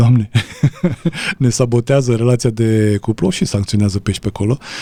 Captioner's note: laughter